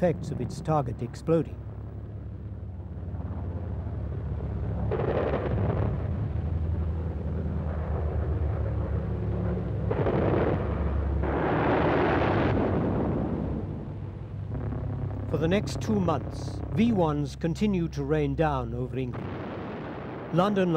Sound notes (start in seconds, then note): 5.2 guns firing; 11.4 explodes; 19.0 exploding